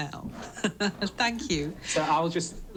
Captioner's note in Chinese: 咯咯笑; chuckles